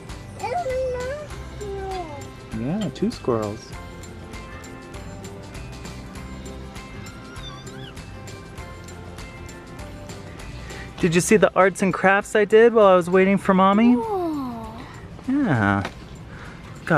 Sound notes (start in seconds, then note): 4.7 lighthearted music; 6.9 squeals